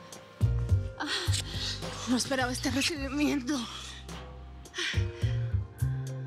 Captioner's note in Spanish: exhala